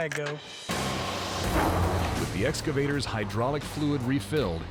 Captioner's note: clanking sound